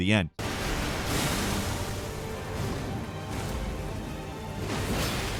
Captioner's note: explosion blasts; dramatic orchestral music; blows thudding